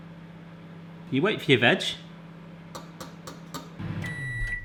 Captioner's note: taps; beeping